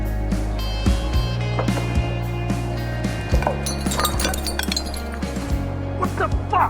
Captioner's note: bottles clinking